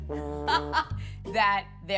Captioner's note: laughs